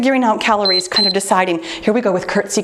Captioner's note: timer beeps